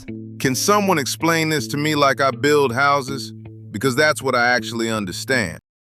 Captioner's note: exasperated